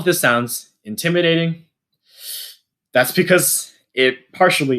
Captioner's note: sharp intake of breath